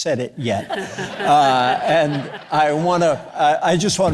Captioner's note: audience laughing